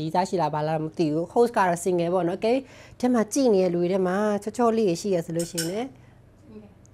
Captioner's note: clink clink